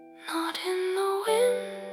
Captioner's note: chorus: fully whispered